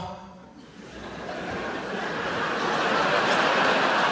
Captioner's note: audience laughs